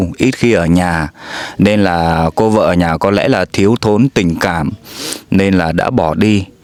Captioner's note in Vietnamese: khịt mũi